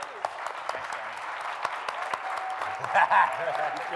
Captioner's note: claps